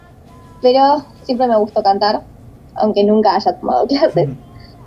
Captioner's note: giggles